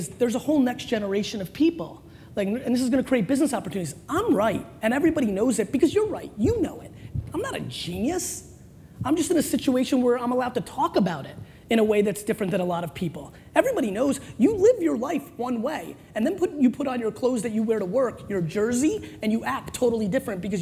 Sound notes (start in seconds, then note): none